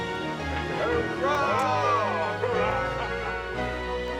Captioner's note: men cheering